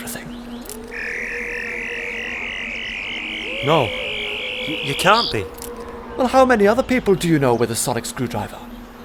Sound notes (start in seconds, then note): 0.6 the twelfth doctor activates his sonic screwdriver